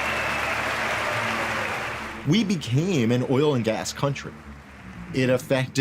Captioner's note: audience applauding